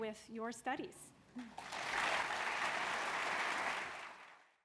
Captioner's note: applause